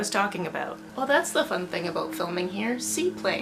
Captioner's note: plane noises